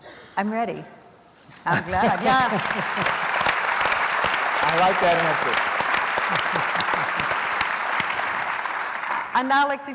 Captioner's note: applause